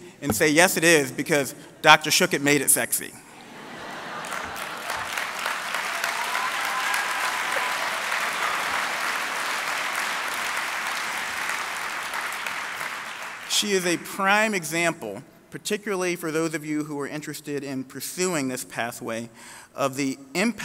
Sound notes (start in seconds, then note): 4.2 applause